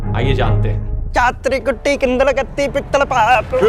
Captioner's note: Mocking South Indian Languages by speaking gibberish